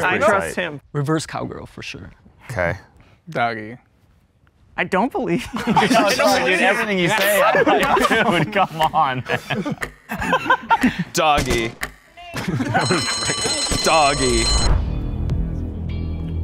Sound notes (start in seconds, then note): 8.9 laughing; 12.6 bell rings